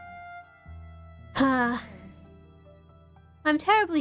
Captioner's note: ROSE sighs